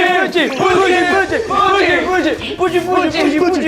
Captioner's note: cheers and praise!